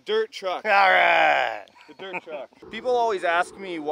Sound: laughs

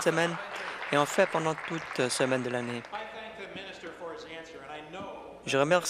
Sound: applause

